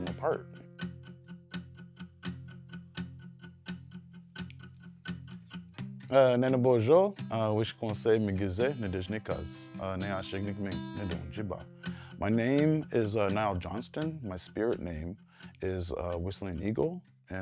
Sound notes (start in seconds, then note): 0.0 upbeat music; 6.1 speaking in foreign language